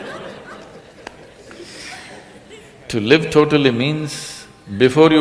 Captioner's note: laughter